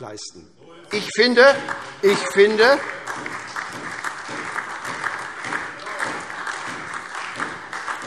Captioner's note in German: Beifall SPD und vereinzelt DIE LINKE